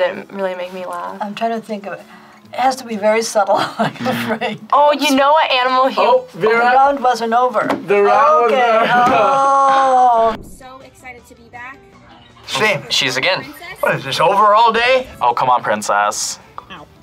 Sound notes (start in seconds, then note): 3.6 laughs; 4.6 buzzer rings